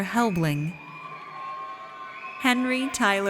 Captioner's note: audience cheers